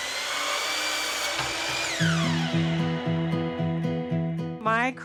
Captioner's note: natural sound of sawing